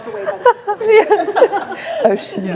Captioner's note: group laughing